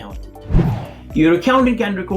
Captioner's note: air swooshing